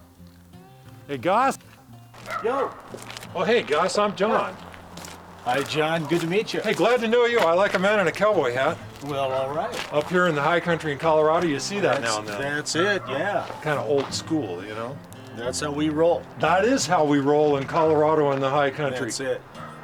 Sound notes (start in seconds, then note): 2.2 dog barking